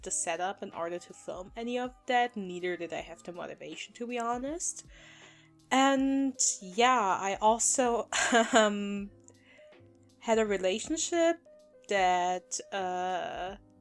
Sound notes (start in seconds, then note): 8.2 awkward uncomfortable laugh